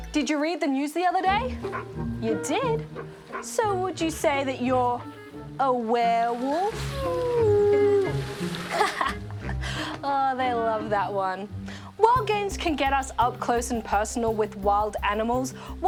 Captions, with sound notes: Did you read the news the other day? You did? So would you say that you're aware-wolf? (HOWLS) (LAUGHS) Oh, they love that one. While games can get us up close and personal with wild animals,